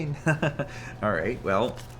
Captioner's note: chuckles